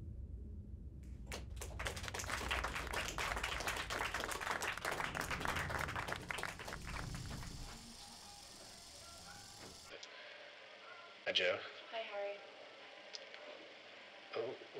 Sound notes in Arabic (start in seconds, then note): 1.2 الجمهور يصفق